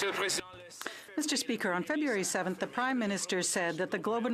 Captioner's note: some Applause